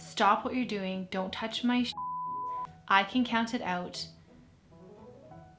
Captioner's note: beep